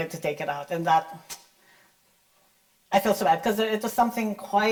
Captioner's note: clicks tongue